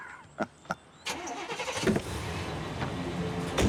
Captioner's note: laughs